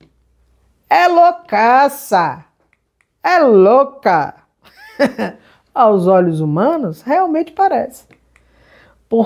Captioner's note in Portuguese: risadas